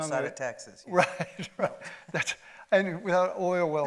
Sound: chuckles

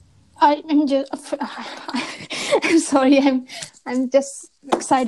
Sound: laughs

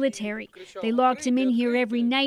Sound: speaking alternate language

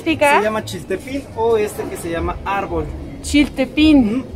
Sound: in Spanish

